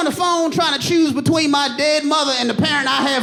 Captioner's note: audience laughing